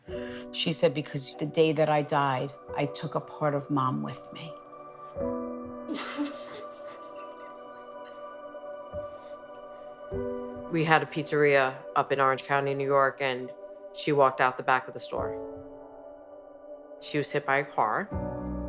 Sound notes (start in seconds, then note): 5.9 crying; 6.0 soft sad music